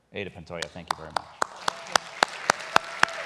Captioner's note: applause